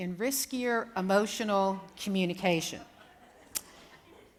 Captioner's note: laughter